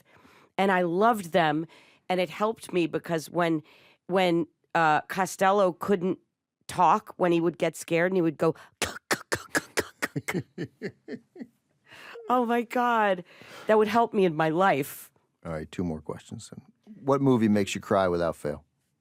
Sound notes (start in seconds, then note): 8.5 grunts; 8.5 laughs